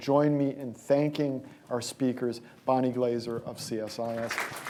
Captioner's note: applause